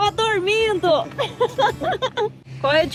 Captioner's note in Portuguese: risadas